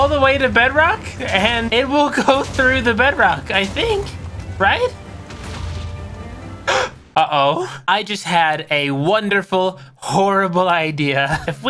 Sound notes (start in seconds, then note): 5.5 explosion bursts through bedrock; 6.7 gasp